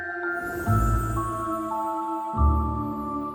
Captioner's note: magical whoosh